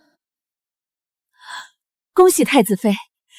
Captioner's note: gasp!